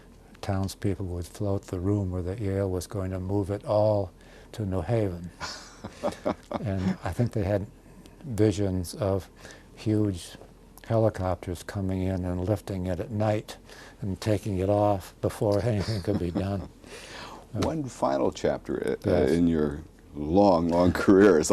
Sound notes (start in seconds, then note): 5.4 laughs